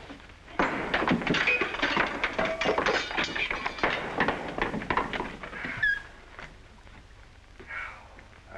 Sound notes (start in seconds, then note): 0.5 objects clattering